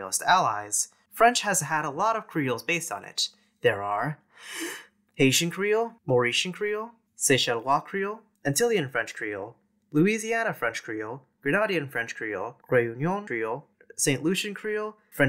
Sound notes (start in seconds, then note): 4.3 deep breath